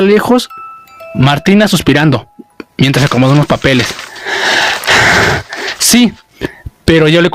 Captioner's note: in a low voice; sighing while arranging papers